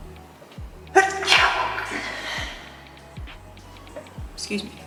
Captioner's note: echoing sneeze